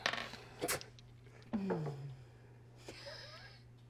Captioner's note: dice rolling